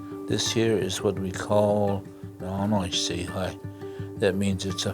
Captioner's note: foreign language